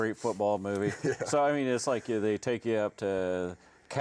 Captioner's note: chuckling